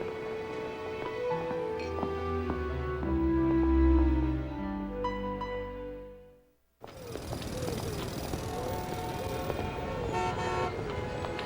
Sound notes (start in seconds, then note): 6.8 jackhammer pounding; 8.2 horns honking